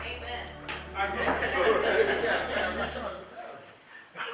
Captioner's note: laughter